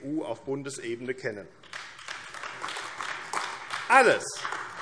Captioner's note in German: Beifall AfD